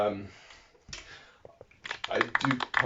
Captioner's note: confused, mistimed applause